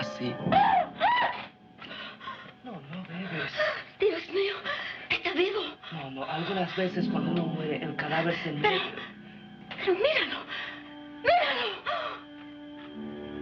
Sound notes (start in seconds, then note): 0.4 screams; 2.4 speaking in foreign language